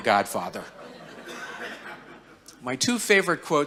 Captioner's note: audience laughing